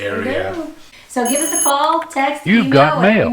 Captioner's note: phone ringing